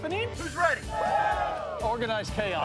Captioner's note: cheering